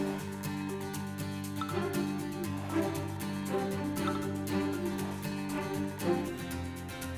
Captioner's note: phone Beeping